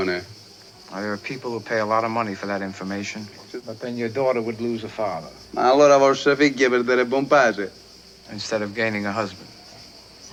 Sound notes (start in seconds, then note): 7.3 speaks italian